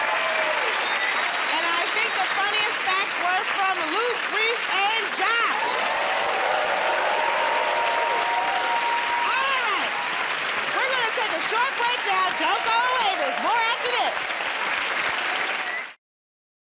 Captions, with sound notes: [ Cheering and applause ] And I think the funniest facts were from Luke, Rhys, and Josh. [ Cheering and applause ] Alright. We're gonna take a short break now. Don't go away. There's more after this.